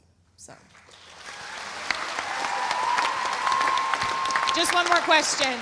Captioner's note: audience applauding; audience cheering